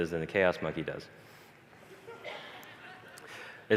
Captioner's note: 다시 폭소